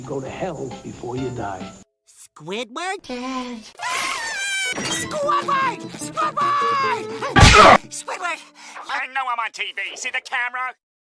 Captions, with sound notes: Go To Tell Before You Die! Squidward...Dead...? [Screams In Excitement] [Door Opens] Squidward! SQUIDWARD! Squidward... You'r- I Know I'm On TV!See The Camera!?